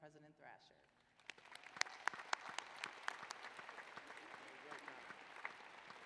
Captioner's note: applause